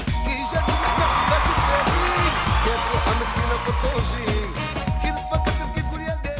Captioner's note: cheering